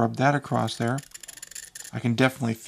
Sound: copper scraping

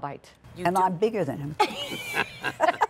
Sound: laughter

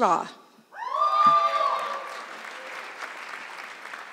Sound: audience clapping

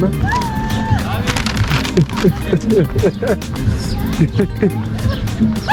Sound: laughter

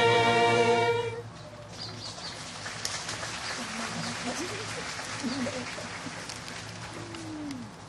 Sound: applause

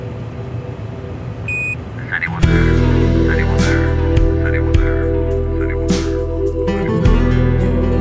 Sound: echos

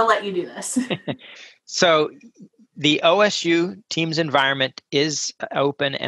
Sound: laugh

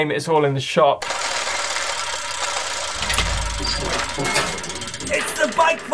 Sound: rumbling and creaking

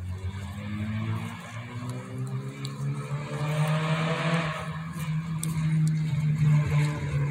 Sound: a car transmission in the distance revs loud for a long time

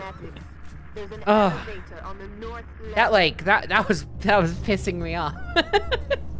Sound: laughing

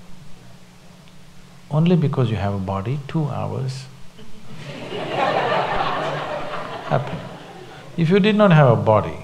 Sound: laughter

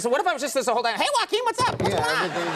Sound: in high-pitched voice; audience laughs

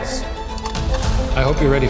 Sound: projector clicks

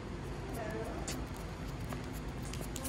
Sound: Waddle scritches on the floor

